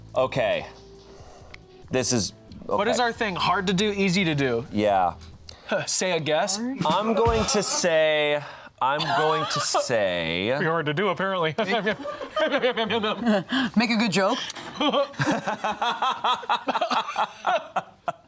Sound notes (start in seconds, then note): 6.8 laughs; 11.6 fake laughs; 16.2 laughs